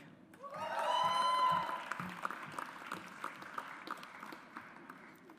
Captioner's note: audience applauds